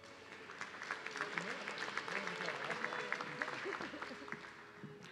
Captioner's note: audience clapping